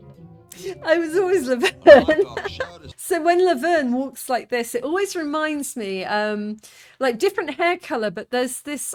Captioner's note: laughing